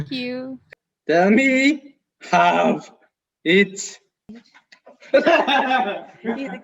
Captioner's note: loud laughing